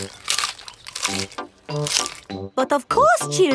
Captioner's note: munching